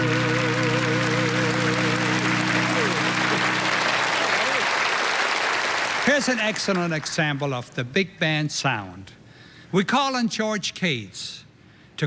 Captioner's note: applause